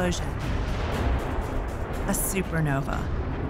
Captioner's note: explosion roars